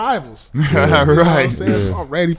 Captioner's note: laughing